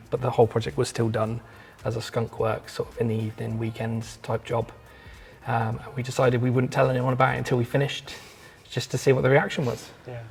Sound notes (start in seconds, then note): none